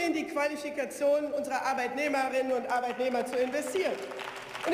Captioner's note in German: Beifall